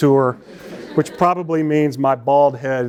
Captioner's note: laughter